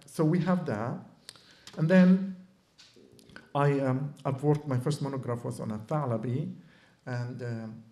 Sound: non-english

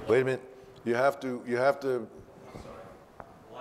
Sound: voiceover

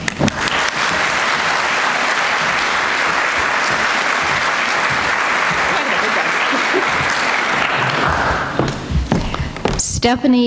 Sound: applause

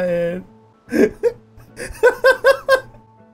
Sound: laughing

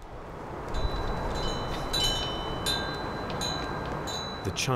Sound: wind chimes tinkling

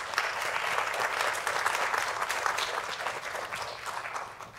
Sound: audience applause

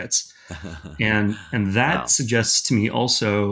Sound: laughing

